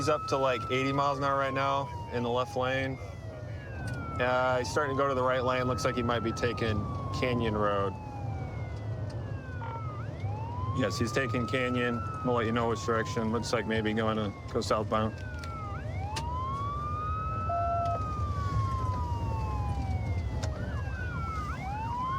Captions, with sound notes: He's up to like, 80 miles an hour right now in the left lane. He's starting to go to the right lane, looks like he might be taking Canyon Road. Yes, he's taking Canyon. We'll let you know which direction. Looks like maybe going to go southbound. [sirens wailing]